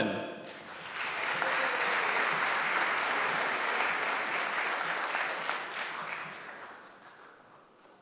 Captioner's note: applause